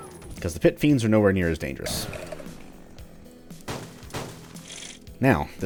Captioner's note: boxes get smashed